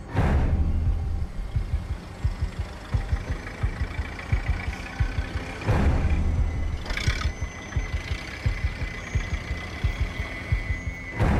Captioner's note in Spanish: Ruido del vehículo